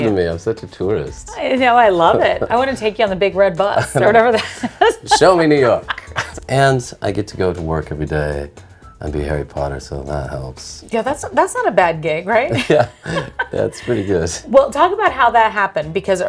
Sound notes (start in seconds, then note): 3.7 laughs; 12.5 both laughing